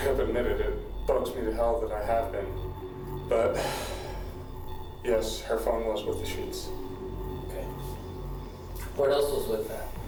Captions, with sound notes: it bugs me to hell that I have been, but [sighs],, yes, her phone was with the sheets. OK. What else was with that?